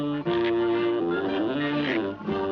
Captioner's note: gulp